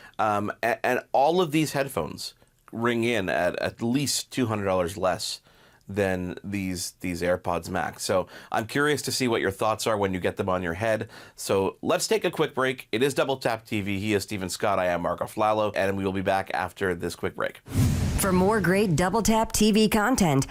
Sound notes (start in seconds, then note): 17.6 logo whooshing